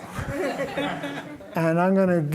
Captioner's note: laughter